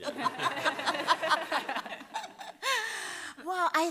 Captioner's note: laughter